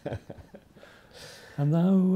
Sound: laughs

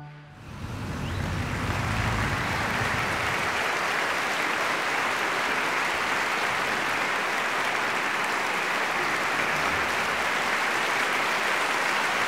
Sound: audience applause

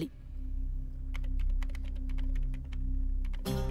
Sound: typing

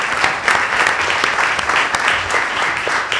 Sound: applause

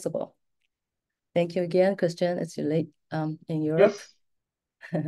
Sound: laughs

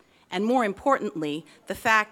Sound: none

